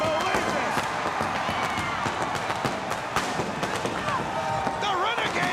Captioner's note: crowd cheering